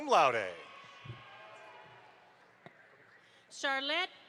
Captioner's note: audience applauds